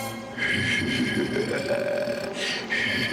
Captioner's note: evil laugh